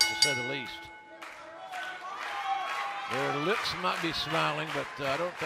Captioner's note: bell ringing